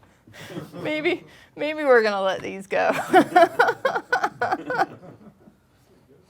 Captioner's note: laughing; laughing